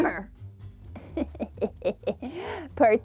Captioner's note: laughs